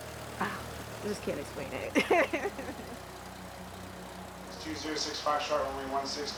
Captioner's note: laughs